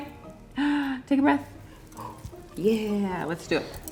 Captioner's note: inhales sharply